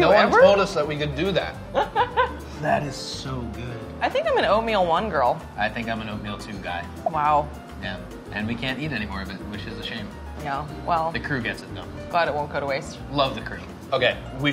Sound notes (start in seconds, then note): 1.7 laughing